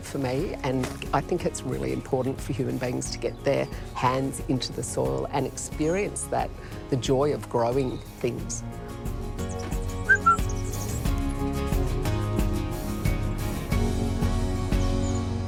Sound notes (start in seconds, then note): 10.0 whistles